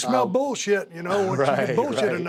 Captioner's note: laugh